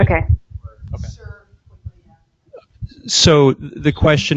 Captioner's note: woman mumbling